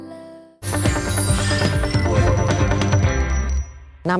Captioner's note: none